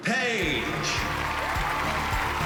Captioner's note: all cheering and applauding